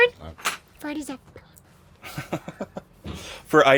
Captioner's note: whispering